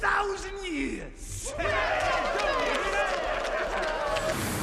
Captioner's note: cheering